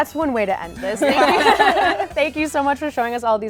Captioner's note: laughter